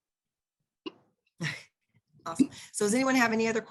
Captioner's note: laughs